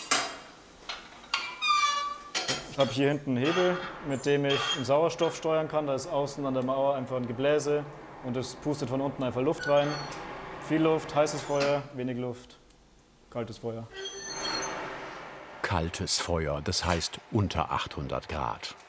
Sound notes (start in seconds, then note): 1.2 squeaking; 13.9 squeak, then blast of air